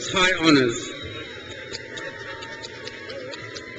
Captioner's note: crowd cheers